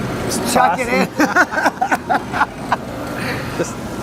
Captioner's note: laughter